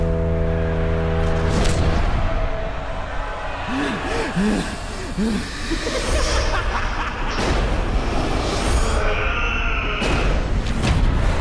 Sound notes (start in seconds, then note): 3.4 breathing deeply; 6.3 background laughter